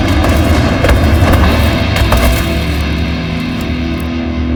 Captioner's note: hit thuds; body thudding